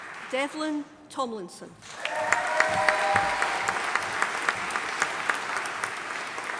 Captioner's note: audience applauding